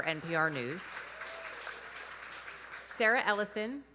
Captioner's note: audience applauding